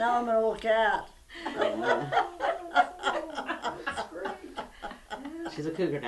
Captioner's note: laughter